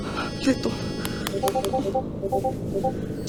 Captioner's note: sound of messages